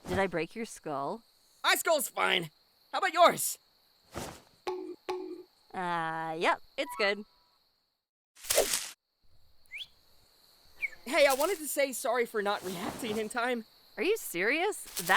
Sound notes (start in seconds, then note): 4.6 knock knocks but nobody's in there